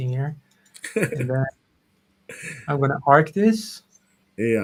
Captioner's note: laughs